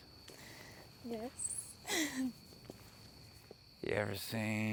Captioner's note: giggles